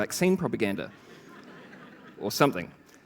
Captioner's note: laughter